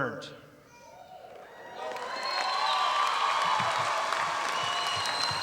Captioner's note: audience applauding